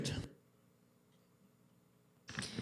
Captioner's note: audio drop